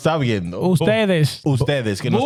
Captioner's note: speaking In Foreign Language